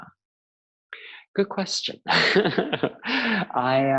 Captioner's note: laughing